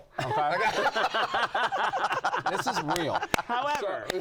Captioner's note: laughter